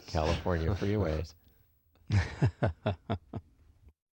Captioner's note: laughs